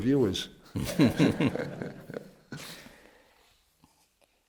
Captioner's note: laughter